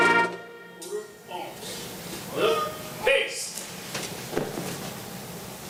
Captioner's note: shouted commands